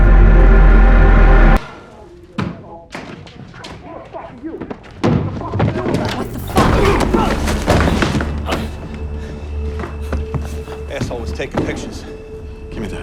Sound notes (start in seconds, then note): 7.9 person grunting; 9.0 dramatic music